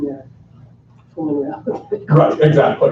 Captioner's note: laughs